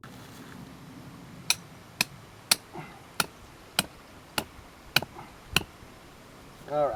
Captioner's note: hammering